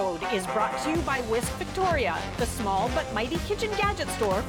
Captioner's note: announcer voice